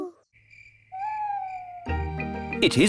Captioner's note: crickets chirping